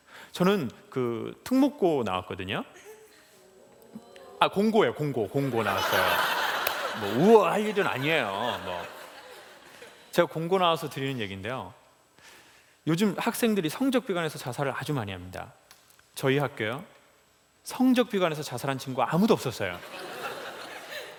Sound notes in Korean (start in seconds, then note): 5.5 웃음